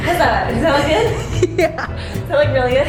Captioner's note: laughing